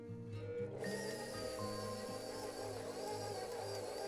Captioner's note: whirring